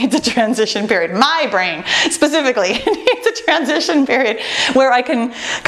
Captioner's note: laughs